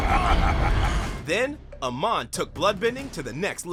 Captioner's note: laughing